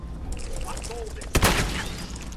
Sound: blam!

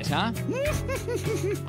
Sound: cheerful laugh

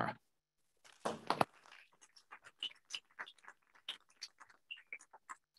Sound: applause

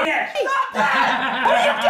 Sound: the devil's laugh

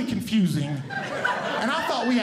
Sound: audience Laughing

